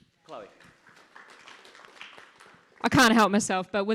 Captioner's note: audience claps